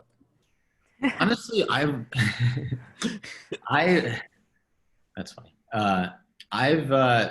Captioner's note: laughs